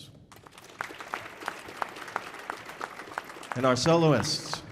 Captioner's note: audience applauding